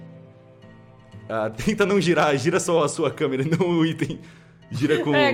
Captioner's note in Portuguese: risos